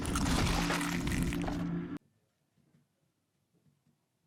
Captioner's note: bones crunching